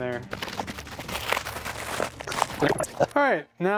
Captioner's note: plastic crinkling